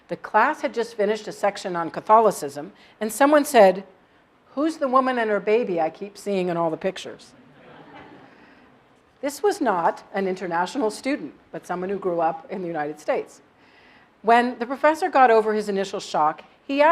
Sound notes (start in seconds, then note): 7.4 laugh